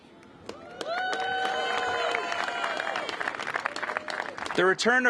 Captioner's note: cheers and applause